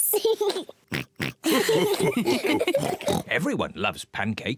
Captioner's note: giggles and oinks; all laugh; mummy pig oinks